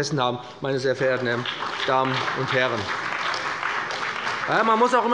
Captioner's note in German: Beifall bei dem BÜNDNIS 90/DIE GRÜNEN und der CDU